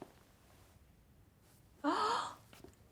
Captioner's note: gasps